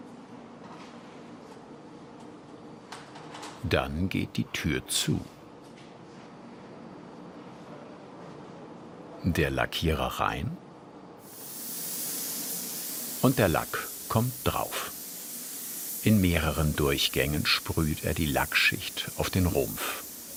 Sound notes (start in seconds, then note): 11.0 continuous spraying